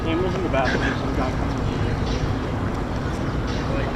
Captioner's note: laughs